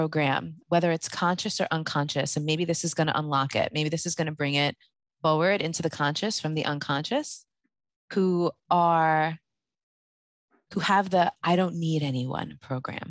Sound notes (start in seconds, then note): none